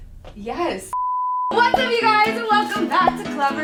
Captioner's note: beep